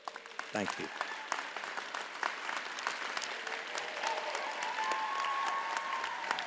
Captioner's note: audience cheers and applauds